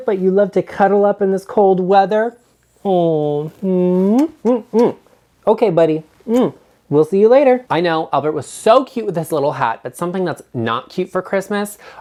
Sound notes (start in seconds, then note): 3.5 kissing; 6.2 kissing